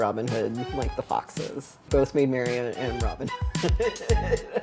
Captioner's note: laughs